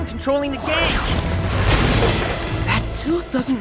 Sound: zaps

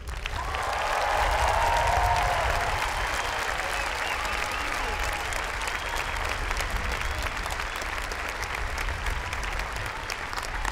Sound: applause

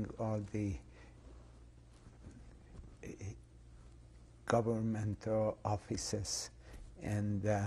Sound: pauses for 3 seconds

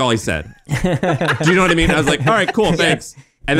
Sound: laughing

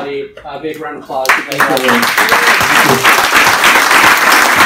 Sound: applause

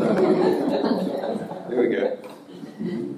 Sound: audience laughing

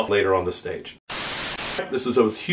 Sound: static

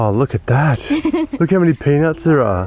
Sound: laughs

